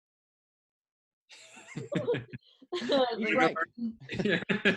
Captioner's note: laughing